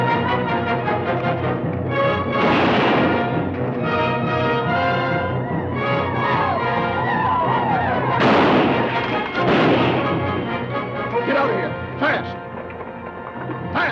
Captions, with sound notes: (dramatic orchestral music) (gun fires) (Native Americans howl) (guns fire) - Get outta here, fast!